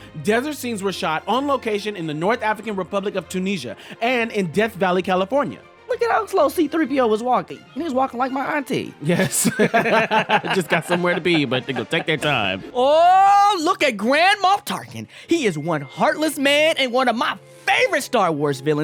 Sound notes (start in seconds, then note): 9.1 laughter